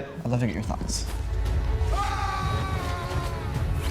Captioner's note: wind, yelling